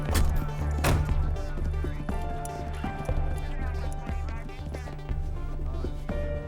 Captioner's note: car doors closing; police radio chatter